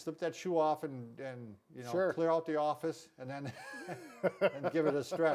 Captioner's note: chuckling